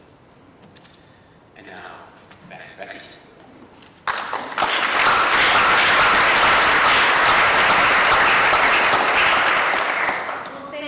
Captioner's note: applause